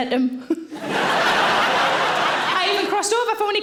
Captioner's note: audience laughing